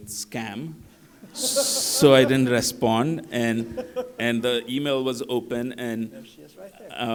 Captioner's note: laughter